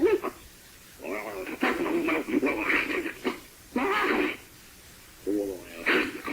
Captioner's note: creature continues vocalizing